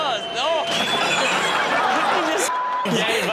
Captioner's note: audience laughing; table and bottles crashing